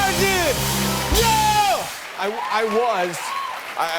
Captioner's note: cheers and applause